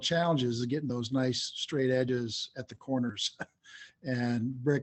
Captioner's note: chuckles